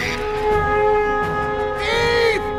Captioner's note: horn blowing